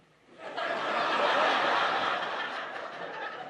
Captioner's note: laughter